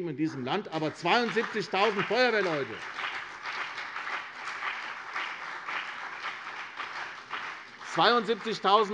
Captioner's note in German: Beifall CDU und BÜNDNIS 90/DIE GRÜNEN